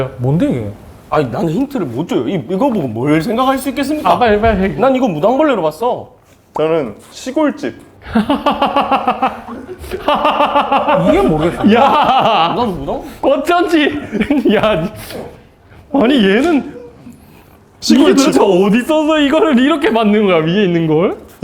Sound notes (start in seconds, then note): 8.0 laughing hard; 10.9 burst into laughter